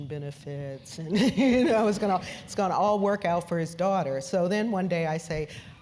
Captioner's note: laugh